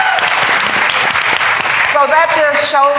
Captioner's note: applause